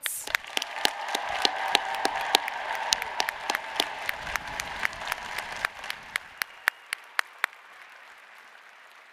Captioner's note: applause